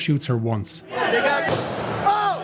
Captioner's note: gunshot